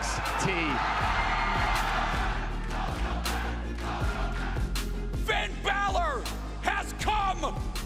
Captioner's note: crowd cheering